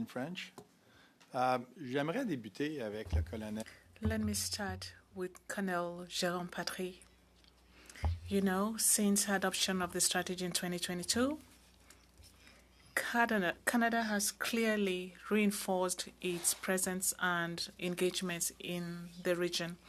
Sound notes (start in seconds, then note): 9.5 speaking French